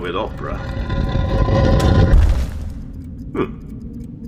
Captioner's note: something heavy dragging and thumping